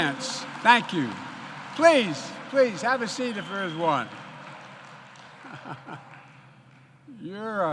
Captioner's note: applause